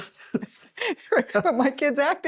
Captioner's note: laughing